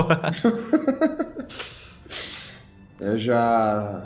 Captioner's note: laughing